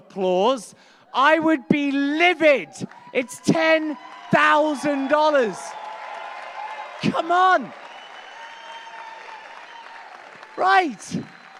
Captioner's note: applause